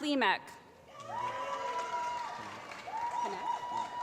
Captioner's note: applause